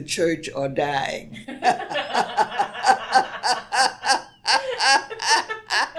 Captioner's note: laugh